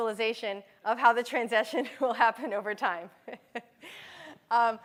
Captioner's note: laughter